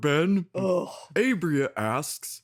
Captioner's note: Phasma sighs with exhaustion